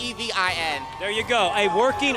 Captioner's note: audience cheering